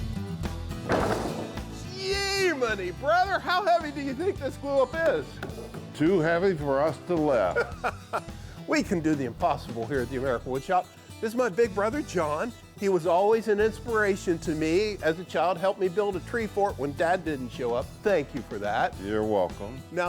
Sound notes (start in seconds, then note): 0.0 upbeat country music continues; 0.8 wood thumping; 7.5 chuckles